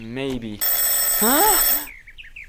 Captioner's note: doorbell ringing